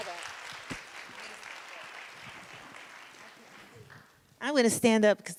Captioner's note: audience continues to applaud